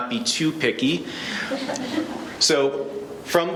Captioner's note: laughing